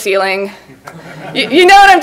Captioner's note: laughs